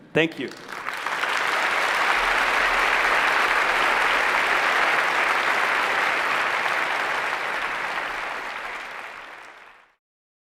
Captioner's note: applause